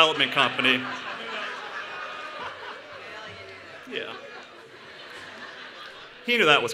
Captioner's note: laughter